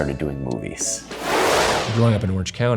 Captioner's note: whooshing